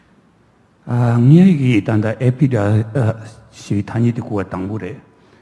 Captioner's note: speaking tibetan